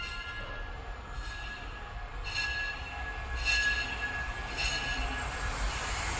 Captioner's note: crossing gate bells dinging